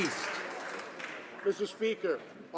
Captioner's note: some Applause